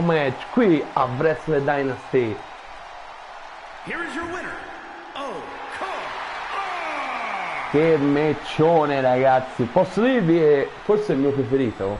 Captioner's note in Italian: Applauso